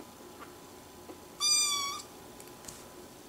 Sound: meow

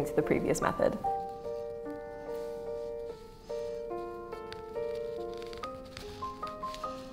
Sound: classical music; fabric rustling

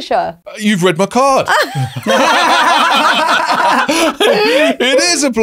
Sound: all laughing

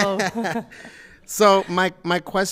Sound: people chuckle

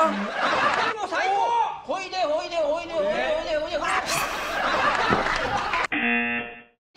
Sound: speaking Japanese

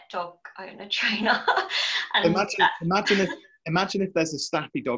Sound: laughing

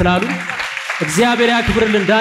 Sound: applause

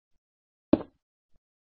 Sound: block breaks

